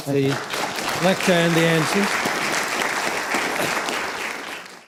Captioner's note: applause